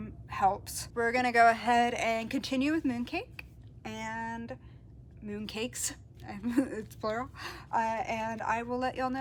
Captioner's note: laughs